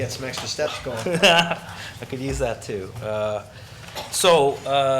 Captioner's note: laughs